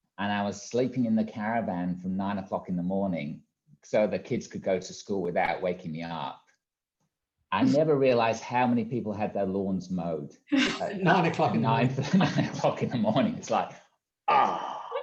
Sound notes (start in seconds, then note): 11.0 all laughing